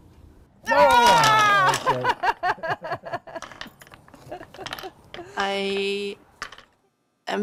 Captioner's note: excited scream and laughter